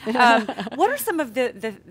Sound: laughter

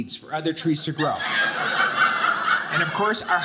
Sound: audience laughing

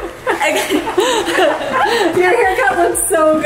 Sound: women laughing

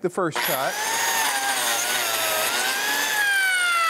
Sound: machine whirling

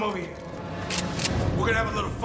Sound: shotgun cocked

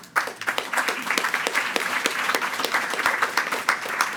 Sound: attendees clapping

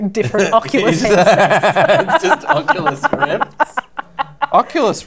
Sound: laughter

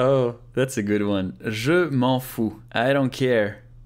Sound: repeats the sentence in French

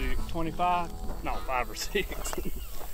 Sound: laughter

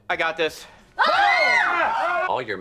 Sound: screams

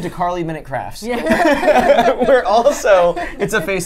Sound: laughs

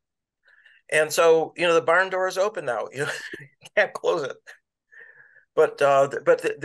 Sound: laughter

